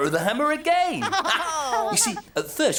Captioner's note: laughter